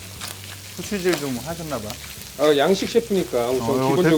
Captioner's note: grinding pepper